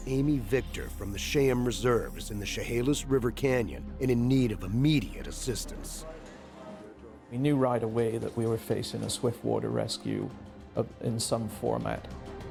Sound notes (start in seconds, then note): 2.6 voiceover